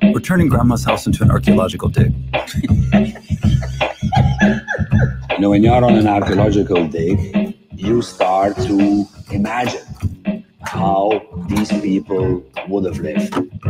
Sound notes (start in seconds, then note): 2.4 laughs